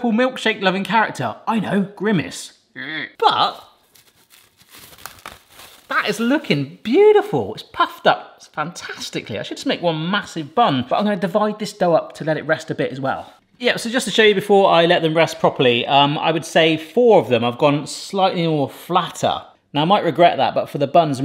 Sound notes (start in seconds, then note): 2.5 grunts; 3.4 wrapper rustling